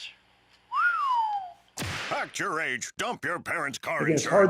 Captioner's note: whisling